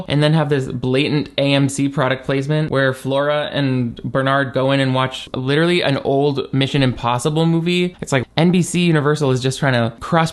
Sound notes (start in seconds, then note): none